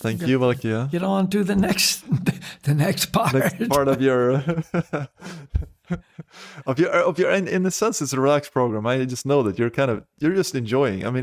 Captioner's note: laughs